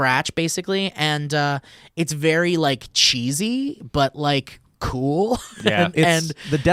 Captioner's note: laughs